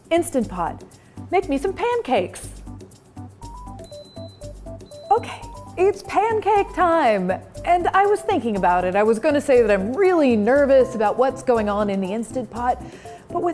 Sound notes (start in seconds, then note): 3.5 beeping